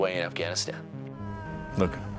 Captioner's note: POW screams